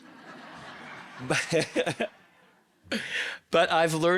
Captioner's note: all laughing